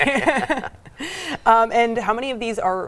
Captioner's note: laughing